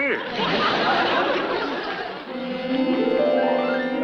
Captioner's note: audience laughs; whimsical music